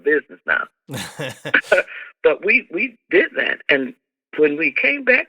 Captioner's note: laughter